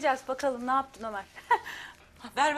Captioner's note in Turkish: Gülme sesi